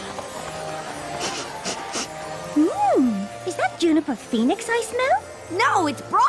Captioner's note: sniffing